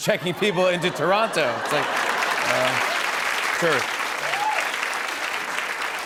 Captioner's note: laughter and applause